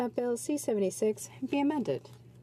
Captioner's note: speaking French